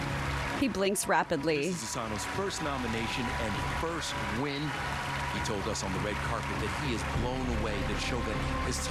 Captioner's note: applause